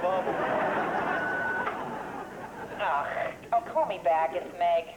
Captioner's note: beeps